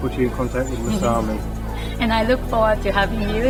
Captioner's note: laughs